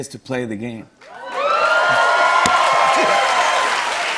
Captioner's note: cheers and applause